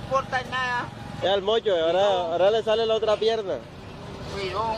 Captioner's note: officer speaks in foreign language